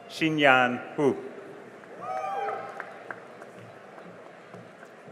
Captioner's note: cheering and applause